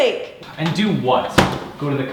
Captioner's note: refrigerator closing